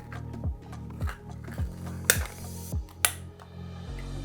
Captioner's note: clacking